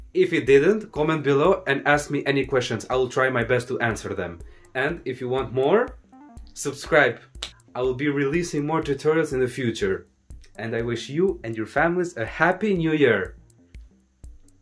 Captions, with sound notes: If it didn't, comment below and ask me any questions! I will try my best to answer them. And if you want more SUBSCRIBE! (Clap) I will be releasing more tutorials in the future. And I wish you and your family, a Happy New Year!